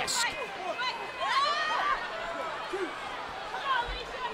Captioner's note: crowd clamoring